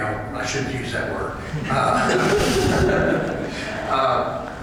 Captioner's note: laughter